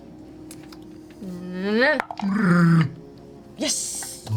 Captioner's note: bear noises